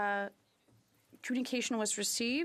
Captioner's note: speaking French